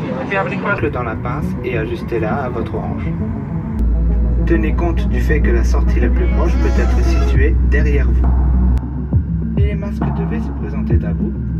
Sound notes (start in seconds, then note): 0.8 PA announcement in French